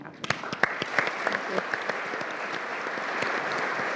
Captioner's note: all applauding